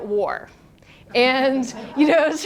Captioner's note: laughs; students laugh